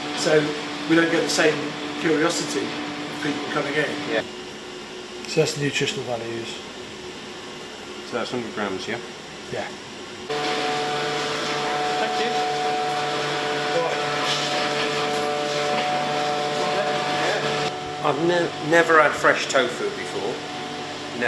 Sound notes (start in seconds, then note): 13.1 machines buzzing